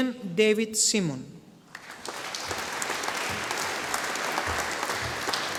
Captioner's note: audience applauding